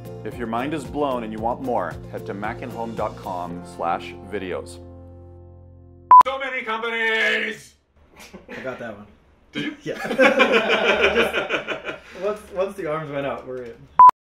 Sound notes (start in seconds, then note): 8.2 laughing